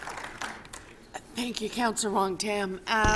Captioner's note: applause